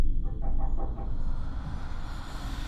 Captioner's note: knocking; disembodied whispers